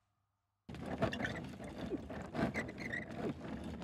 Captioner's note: Trolley bag sound